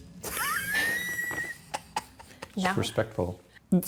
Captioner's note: laughing